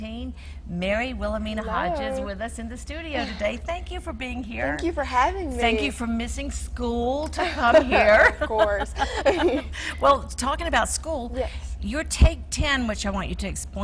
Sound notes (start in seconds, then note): 9.2 laughing